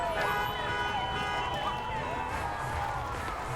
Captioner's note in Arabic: البوق